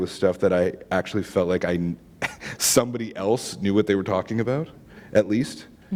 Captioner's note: chuckle